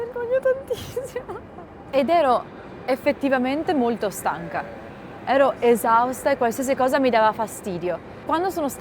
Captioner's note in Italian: risate